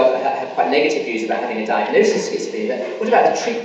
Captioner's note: coughing masks speaker